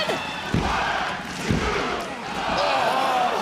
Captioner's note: crowd chants "one, two"